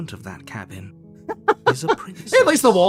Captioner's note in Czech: smích